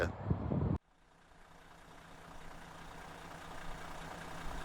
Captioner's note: engine idling